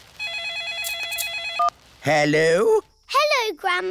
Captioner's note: phone rings